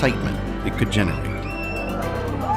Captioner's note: Crowd cheering at SCA